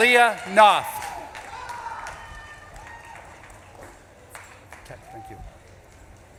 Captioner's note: audience claps and cheers